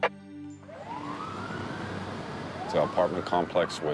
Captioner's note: siren wailing